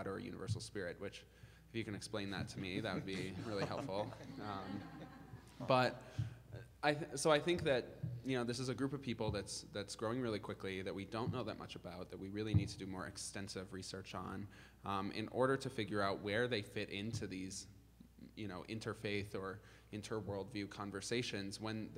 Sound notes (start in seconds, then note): 4.3 group laughing